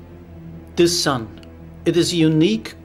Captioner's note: grave orchestral music; voiceover